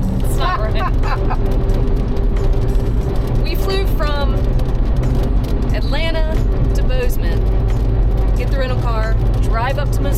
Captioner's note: both laughing